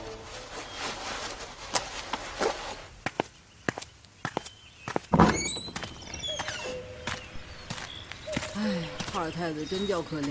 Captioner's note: sigh